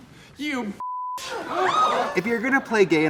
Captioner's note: people gasping